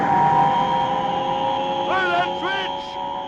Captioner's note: buzzing noise